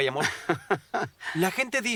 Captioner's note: laughs